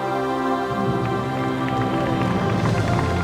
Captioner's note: applause